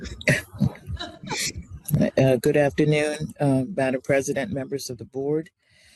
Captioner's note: laugh